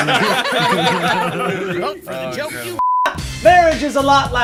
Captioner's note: group laughs